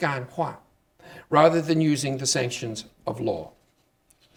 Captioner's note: speaking Chinese